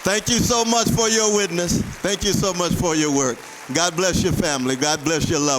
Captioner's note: applause